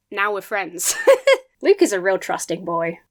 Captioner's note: laughs